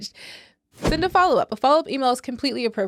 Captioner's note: whooshing